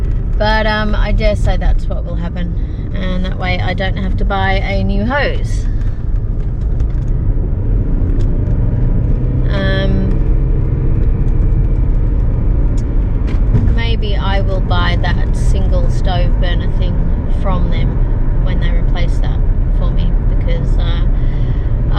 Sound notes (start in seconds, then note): 6.3 car engine revs quietly as car speeds up